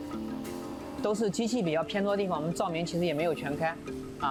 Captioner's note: speaking chinese